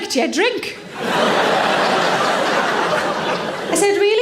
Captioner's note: audience laughs